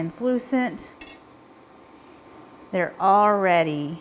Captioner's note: spoon clinking